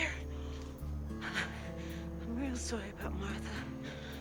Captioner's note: breath trembling